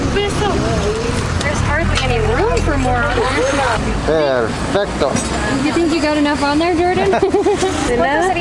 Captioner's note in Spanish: Risas